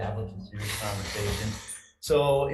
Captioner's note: member blows nose